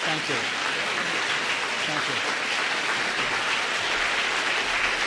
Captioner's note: applause